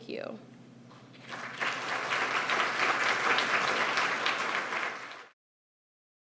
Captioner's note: applause